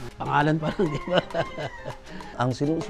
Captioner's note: laughs